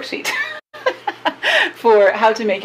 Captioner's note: laughs